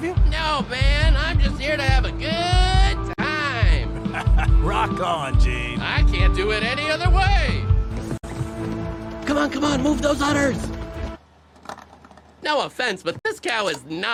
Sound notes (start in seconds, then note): 3.9 chuckles; 7.5 quietly